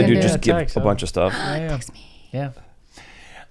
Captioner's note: gasps